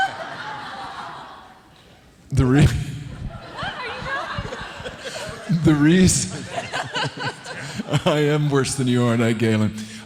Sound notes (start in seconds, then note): 0.0 audience laughing; 3.1 indistinct conversation; 3.1 audience laughing